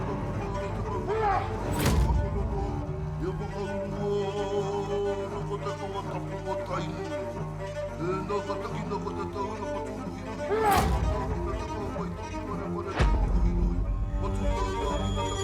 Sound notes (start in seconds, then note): 0.1 yells; 1.6 thud!; 10.4 yells; 10.5 thud!; 12.5 haunting music continues